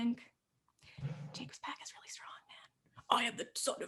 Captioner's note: whispered